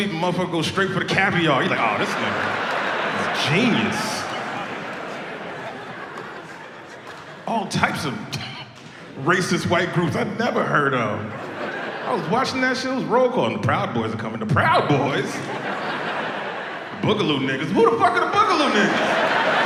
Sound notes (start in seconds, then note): 2.1 audience laughs; 4.5 audience laughs; 14.8 audience laughs